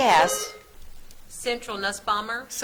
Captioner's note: buzzer trills